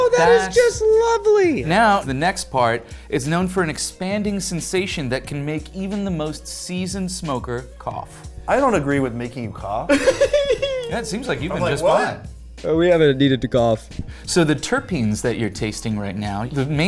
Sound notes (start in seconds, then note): 9.9 chuckling